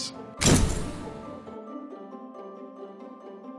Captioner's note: thunk